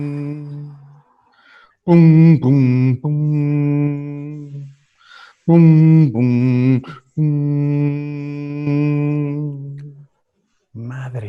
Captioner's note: hums louder